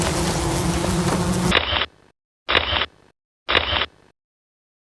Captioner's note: camera clicking